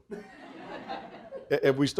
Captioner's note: audience laughing